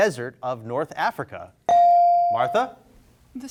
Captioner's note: bell rings